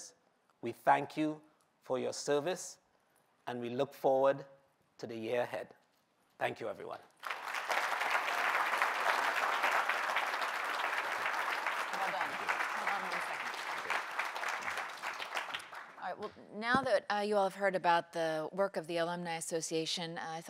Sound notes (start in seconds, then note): 7.1 applause